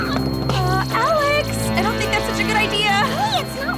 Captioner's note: grunting in frustration